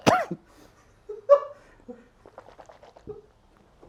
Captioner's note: uncontrollable Laughter